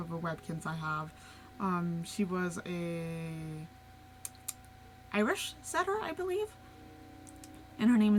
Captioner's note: tongue click